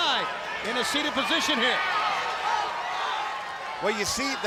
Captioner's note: crowd cheering